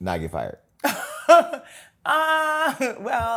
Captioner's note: laughs